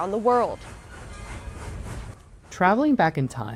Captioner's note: railroad sounds